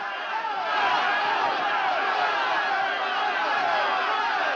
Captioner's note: townsfolk clamoring